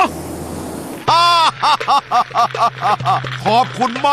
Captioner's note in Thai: หัวเราะ